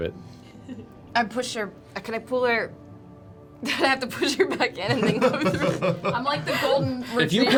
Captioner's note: laughs